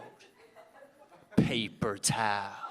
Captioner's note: audience laughing